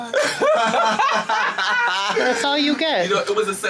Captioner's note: group laughing